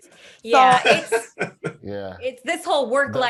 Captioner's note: Eric laughs